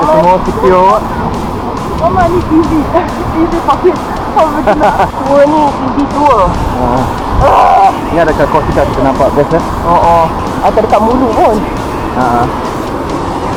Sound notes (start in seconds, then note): 2.1 speaking German; 2.2 laugh